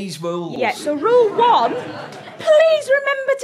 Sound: audience laughter

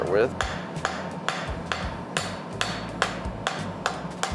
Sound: metal clangs

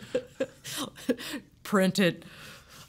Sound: laughing

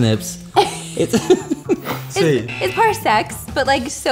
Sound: laughter

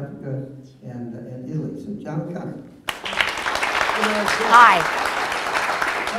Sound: audience applause

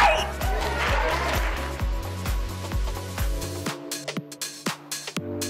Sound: audience applauding; upbeat music; energetic music

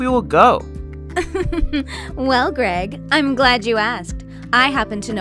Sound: giggles

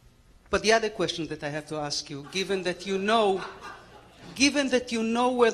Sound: laughter

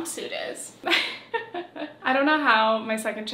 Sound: chuckles

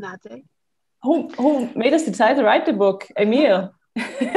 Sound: laughs

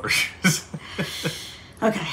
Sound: laughing

